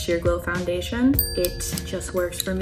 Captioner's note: chiming bell